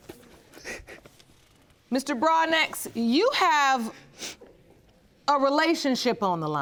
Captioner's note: sobbing